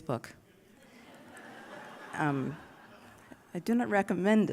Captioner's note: laughter